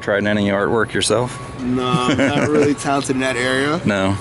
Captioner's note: both chuckle